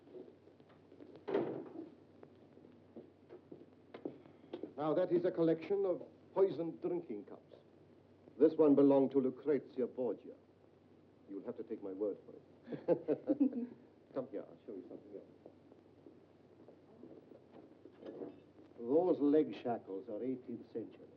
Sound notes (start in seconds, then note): 12.7 laughs